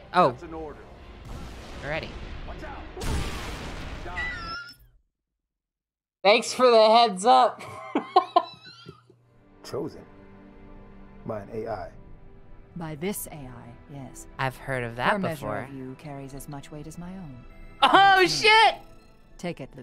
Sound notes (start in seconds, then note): 5.0 loud wheeze of laughter; 6.1 talking through hands; 7.6 laughing